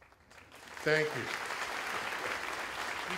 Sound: applause

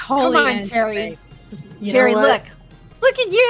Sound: overlapping chatter

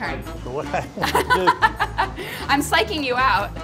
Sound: laughing

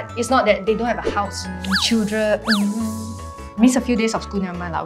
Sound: thinking noises

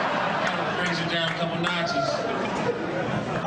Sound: audience laughing

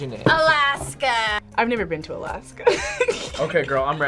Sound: laughs

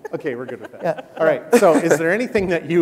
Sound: laughing

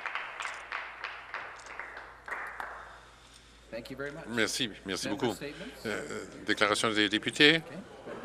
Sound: some Applause

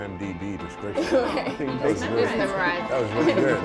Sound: laughs

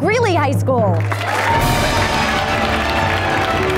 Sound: applause

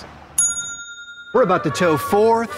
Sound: ding

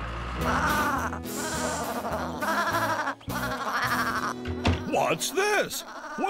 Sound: bleating

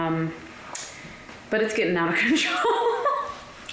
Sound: laughter

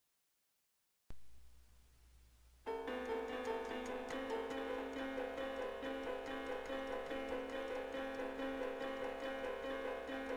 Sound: chilling sound

